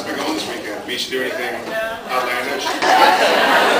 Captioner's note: various replies